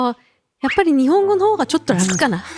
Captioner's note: Speaking Japanese